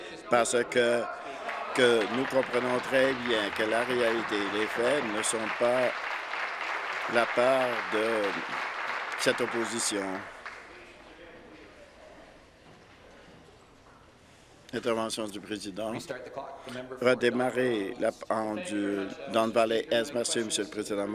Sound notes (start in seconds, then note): 6.0 applause